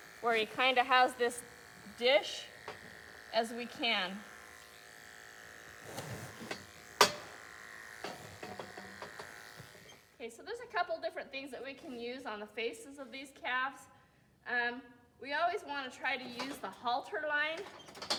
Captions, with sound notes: Where he kind of has this dish as we can. [buzzing and clanging noises] Okay, so there's a couple different things that we can use on the faces of these calves. We always want to try to use the halter line